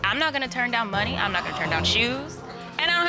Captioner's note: audience gasps